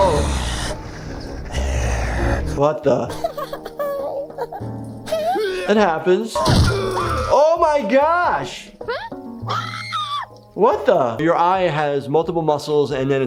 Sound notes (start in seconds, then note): 0.0 Flippy growling; 6.4 Cuddles screams; 9.5 giggles screams